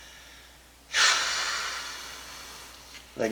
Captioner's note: sigh of sadness